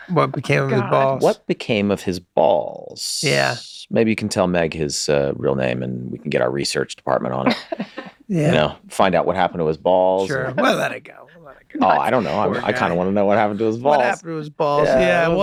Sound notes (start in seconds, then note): 7.4 laughing